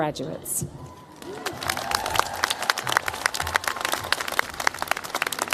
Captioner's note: cheers, applause